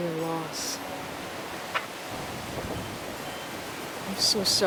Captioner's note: piano music; wind whooshing